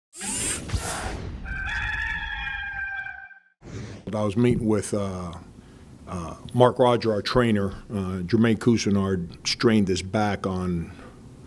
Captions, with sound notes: (mechanical whirring) (rooster crowing) - I was meeting with Mark Rodger, our trainer, Jermaine Cousinard strained his back on...